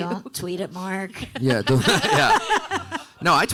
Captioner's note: panelists laughing